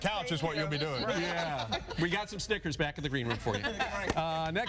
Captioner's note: laughter